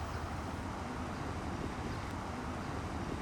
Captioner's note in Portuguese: sons da rua